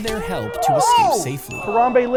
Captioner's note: both exclaiming